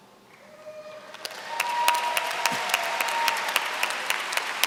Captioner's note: applause